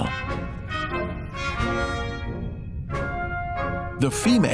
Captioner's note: playful, orchestral music; sculpin whistles